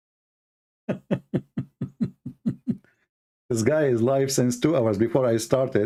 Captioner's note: Ketawa